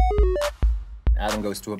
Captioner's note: retro video game sound effects